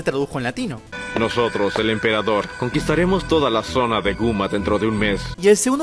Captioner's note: in Latin Spanish